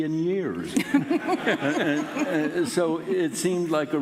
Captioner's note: laughing